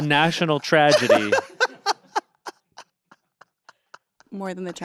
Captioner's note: Anthony laughs